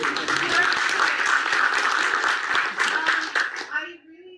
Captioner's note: audience applauds